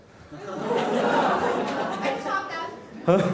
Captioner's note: laughing